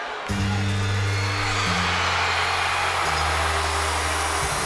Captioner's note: audience cheering